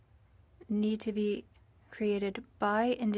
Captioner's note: speaking french